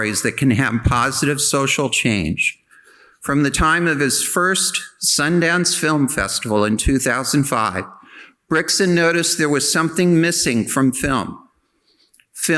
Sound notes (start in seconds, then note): none